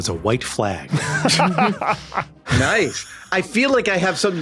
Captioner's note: laughs